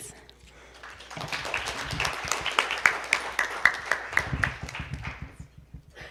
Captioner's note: audience applauding